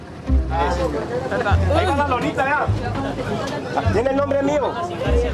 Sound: Spanish spoken audio

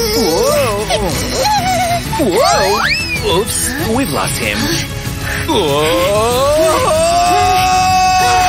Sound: screaming quietly

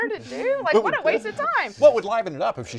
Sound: everyone laughs

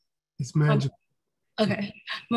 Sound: murmurs

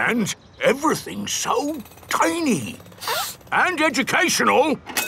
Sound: sniffs

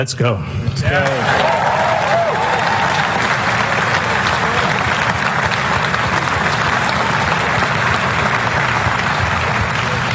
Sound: applause

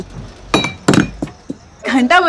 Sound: bottle falls

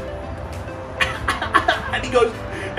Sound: laughter

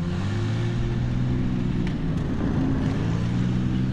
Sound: tank engine revving

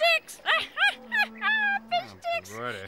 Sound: laughing

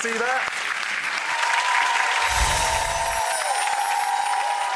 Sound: audience cheering

